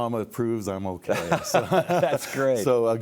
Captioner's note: laugh